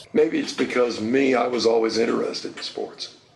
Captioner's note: none